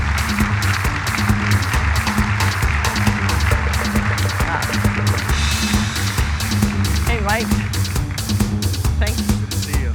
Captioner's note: applause